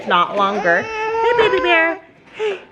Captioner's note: crying